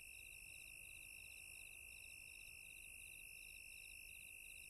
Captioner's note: crickets chirping